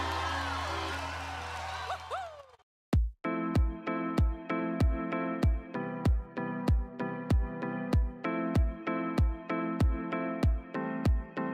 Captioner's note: cheering and Applause